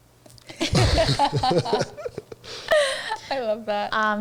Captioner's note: all laughing